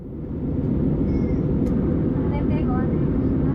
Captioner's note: plane sounds